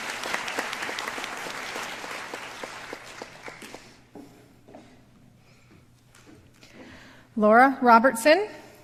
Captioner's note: applause